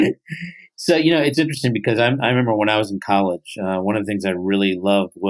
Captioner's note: laughs